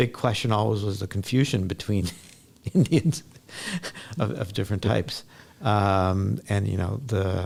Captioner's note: laughs